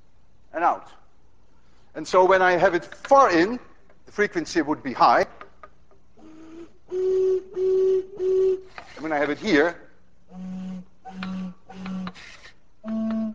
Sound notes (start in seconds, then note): 5.1 plays high tone; 9.1 plays low tone